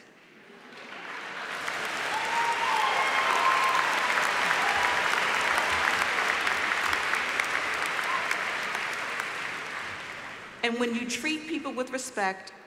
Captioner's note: applause